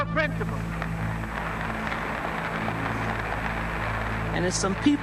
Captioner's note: applauding